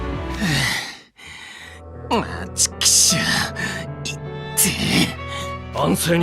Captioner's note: sigh…